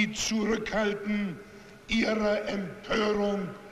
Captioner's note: speech in German